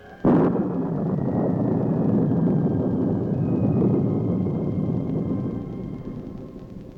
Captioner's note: thunder booms